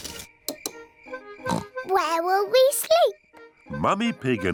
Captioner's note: oinks